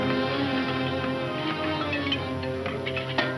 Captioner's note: pick axes clanging